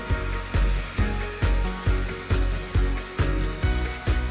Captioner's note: blower whirring